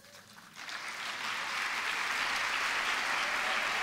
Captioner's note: applause